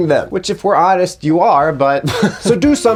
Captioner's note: laughs